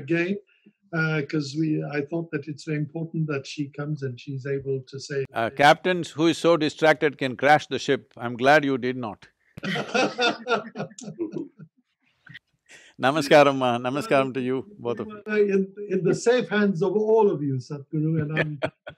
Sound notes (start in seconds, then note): 9.6 laughter